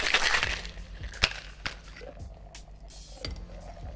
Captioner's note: thuds